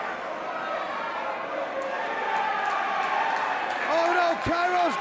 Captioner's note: crowd cheering